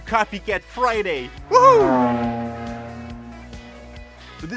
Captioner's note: fast car passing